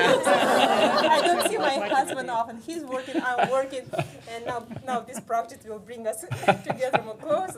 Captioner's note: laughter